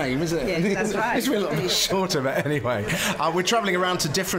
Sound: laughs

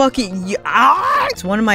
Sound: raccoon screech

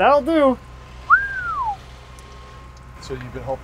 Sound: man whistles

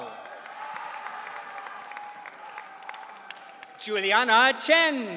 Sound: audience cheering

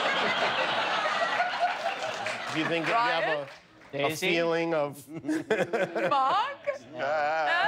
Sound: laughter

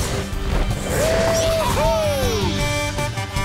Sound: cheering

